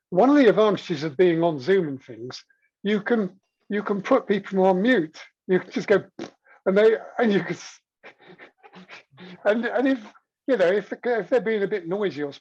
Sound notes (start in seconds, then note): 8.6 blows raspberry